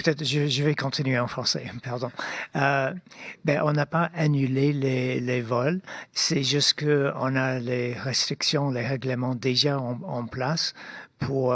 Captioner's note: speaking French